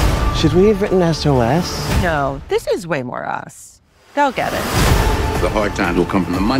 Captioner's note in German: none